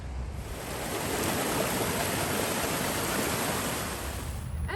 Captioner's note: water flowing